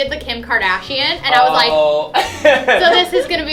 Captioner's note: laughing